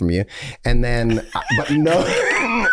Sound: Charlie laughing

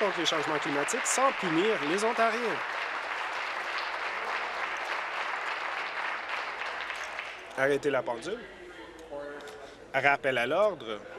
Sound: applause

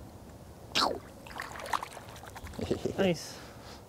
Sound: fish splashing

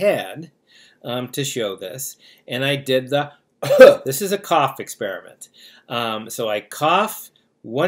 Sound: cough

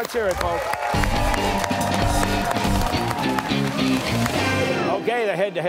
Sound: cheers and applause

